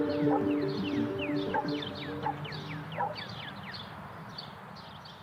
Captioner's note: birds chirping